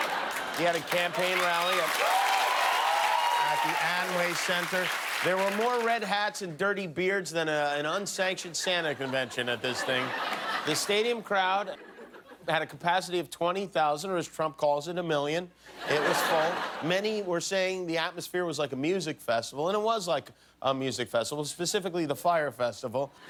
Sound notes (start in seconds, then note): 6.3 cheers and applause